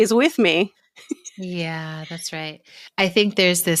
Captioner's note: laughter